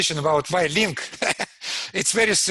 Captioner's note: laughs